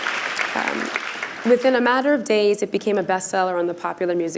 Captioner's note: applause